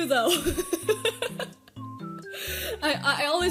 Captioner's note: laughing